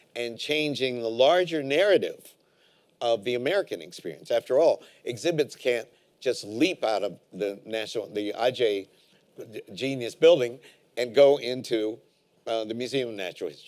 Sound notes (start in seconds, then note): none